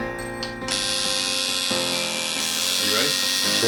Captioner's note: buzzing